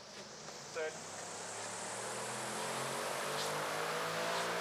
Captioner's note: fan motor buzzing